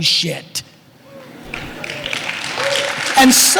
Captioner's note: applause